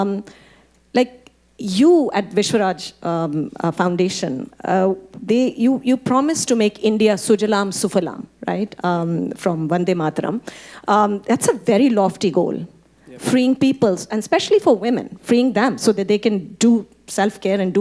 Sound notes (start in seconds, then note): 7.2 speaking Hindi